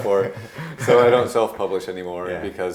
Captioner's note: laughing